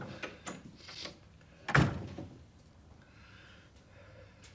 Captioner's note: door closes